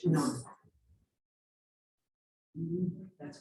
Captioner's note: murmuring